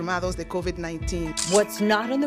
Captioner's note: speaking in foreign language